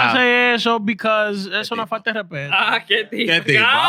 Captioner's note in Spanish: Hablando en idioma extranjero